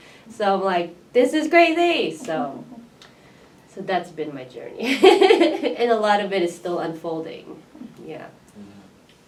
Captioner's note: laughs